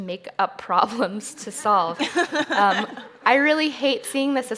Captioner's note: chuckles